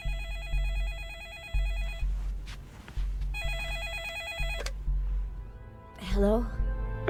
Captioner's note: eerie music; phone ringing